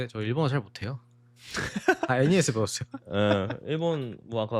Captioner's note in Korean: 웃음